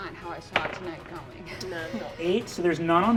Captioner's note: die rolling